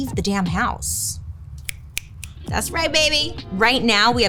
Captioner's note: snaps